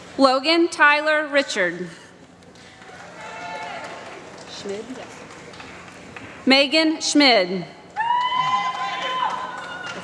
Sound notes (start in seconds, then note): 2.2 applause